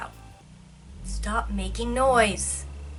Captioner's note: awful motor noise in background